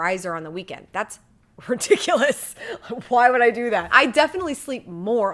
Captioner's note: chuckling